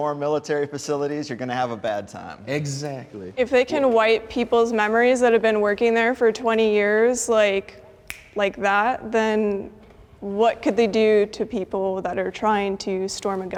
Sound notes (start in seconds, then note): 8.0 snaps